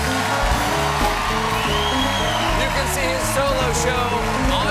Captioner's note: cheers and applause